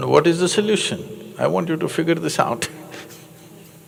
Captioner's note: laughs